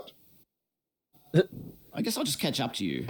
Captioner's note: chuckle